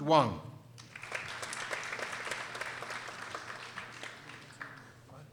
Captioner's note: people applauding